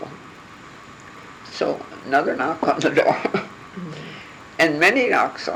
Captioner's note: laughing